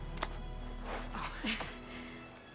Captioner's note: laugh